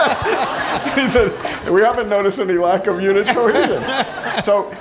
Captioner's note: laughter